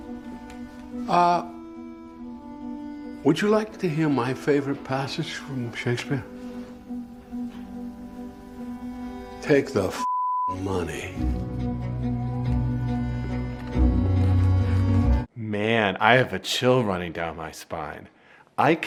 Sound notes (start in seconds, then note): 10.0 beep; 10.5 tense music